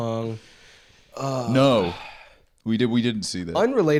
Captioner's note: sighs